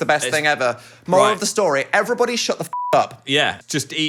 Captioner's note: beep